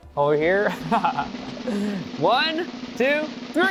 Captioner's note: laughs